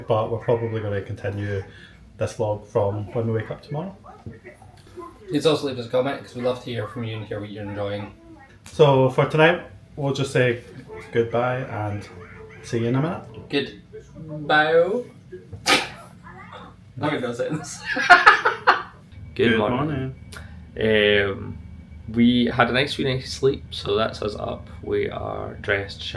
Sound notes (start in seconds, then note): 17.5 laughs